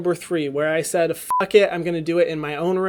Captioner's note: beep